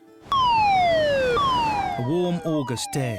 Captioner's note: siren blaring